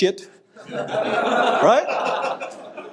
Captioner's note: audience laughing